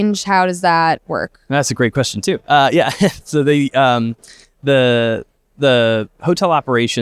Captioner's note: chuckle